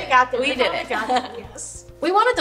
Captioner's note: laughs